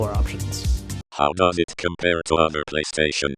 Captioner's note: robotic Voice